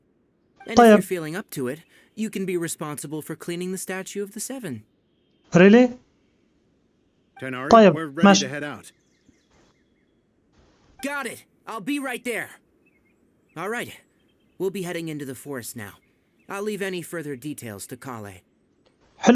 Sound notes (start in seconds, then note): 5.3 silence; 9.3 silence